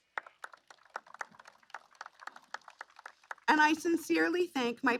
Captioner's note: applause